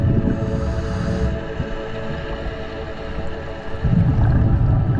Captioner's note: underwater sounds